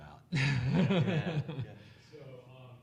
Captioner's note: laughing